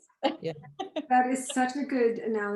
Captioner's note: laughs